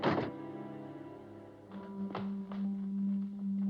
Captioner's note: door Closes